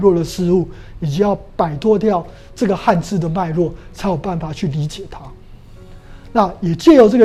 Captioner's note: chinese words